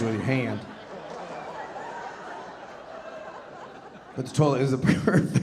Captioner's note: audience laughing